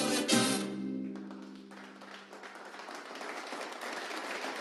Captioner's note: applause in video